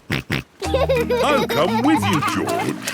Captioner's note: snorts and laughs